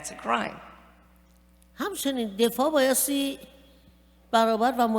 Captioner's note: speaking persian